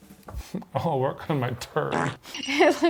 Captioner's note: fart squeaking